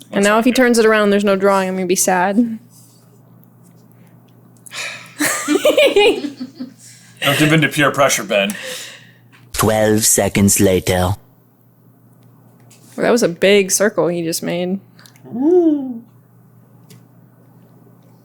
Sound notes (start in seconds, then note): 4.7 deep sigh; 5.2 laughter